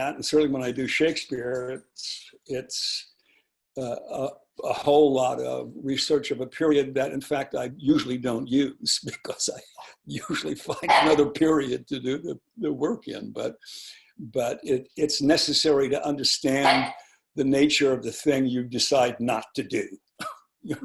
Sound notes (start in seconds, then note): 16.6 dog barking